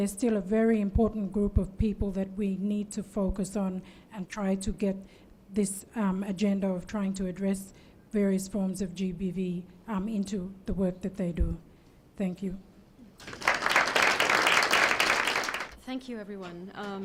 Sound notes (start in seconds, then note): 13.2 applause